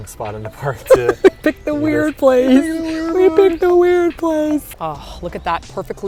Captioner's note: giggles